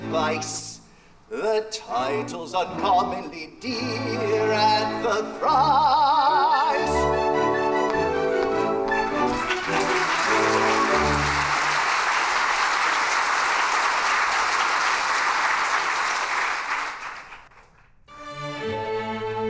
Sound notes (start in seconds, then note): 9.3 applause